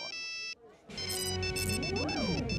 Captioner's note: beeping